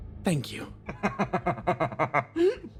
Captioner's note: laugh